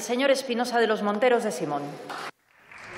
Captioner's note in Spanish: Aplausos